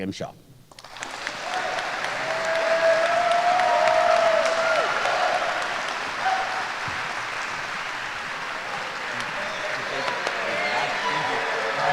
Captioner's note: applause & Cheers